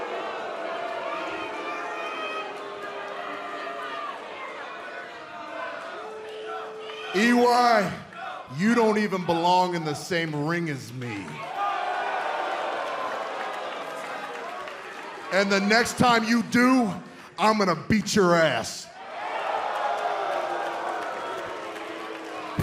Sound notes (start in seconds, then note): 11.4 crowd cheering